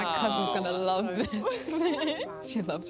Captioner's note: laughter